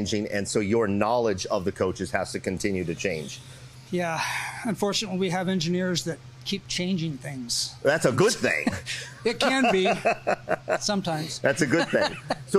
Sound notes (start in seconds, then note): 9.2 chuckles